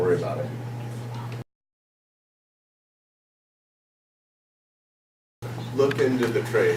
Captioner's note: silence